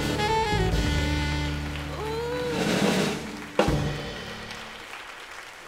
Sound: audience applauds

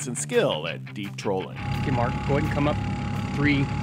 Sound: boat engine idling

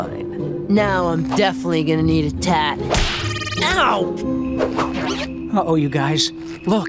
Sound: none

